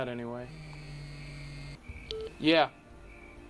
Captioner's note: phone vibrates